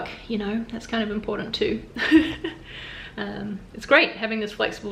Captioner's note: laughs softly